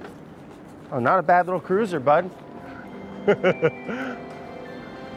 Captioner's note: triumphant music; chuckles